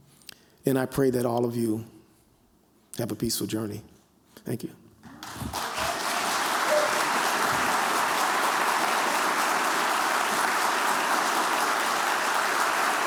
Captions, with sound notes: And I pray that all of you have a peaceful journey. Thank you. [applause]